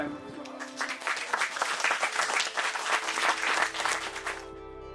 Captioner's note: collective applause; peaceful music continues